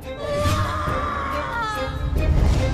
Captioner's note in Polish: krzyczanko